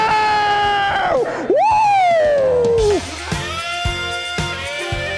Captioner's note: cheering over jazz music